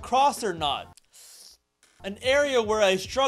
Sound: sharp inhale

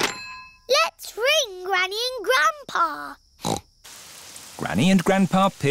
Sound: snorts

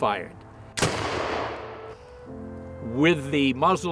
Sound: rifle fires

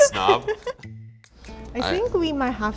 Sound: laughing

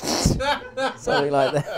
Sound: laughing

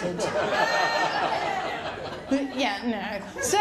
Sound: laughter

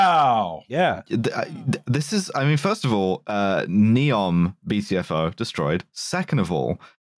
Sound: stammers

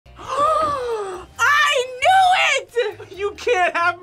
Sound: gasps

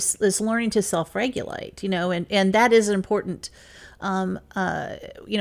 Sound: none

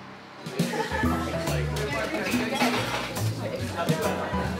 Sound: people chattering

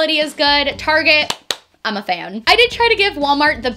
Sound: claps

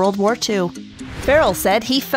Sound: air whooshing

